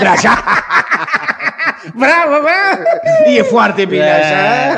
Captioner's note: laughs